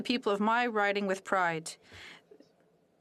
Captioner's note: speaking French